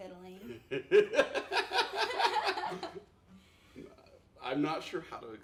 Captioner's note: laughing